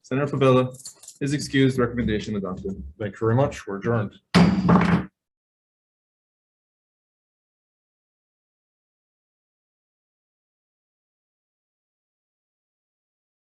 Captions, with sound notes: - Senator Fevella, is excused. Recommendation adopted. - Thanks very much, we're adjourned. (gavel bangs)